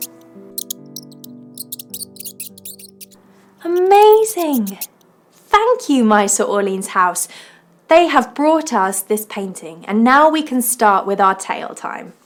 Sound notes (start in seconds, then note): 0.0 mouse squeaking; 0.0 slow music continues; 4.1 mouse squeaks